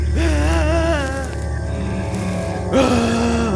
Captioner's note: wailing